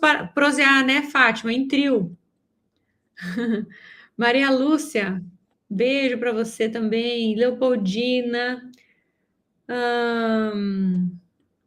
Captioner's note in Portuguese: suspirando